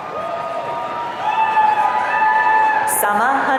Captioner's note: audience cheering